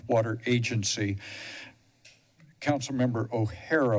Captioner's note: pause